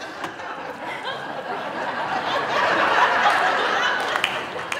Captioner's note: audience laughing